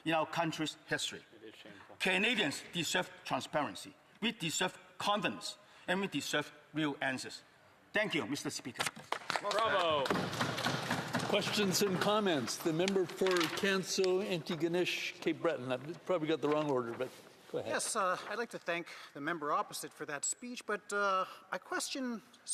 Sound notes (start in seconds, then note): 14.6 applause